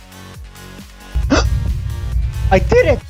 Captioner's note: gasps